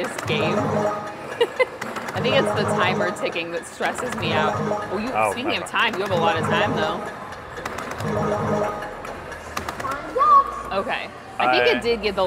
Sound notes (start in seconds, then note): 0.3 balls beeping; 0.3 button clicking; 1.3 laughs; 4.6 balls beeping; 4.6 button thudding; 7.9 balls beeping; 7.9 button clicking; 8.6 timer ticking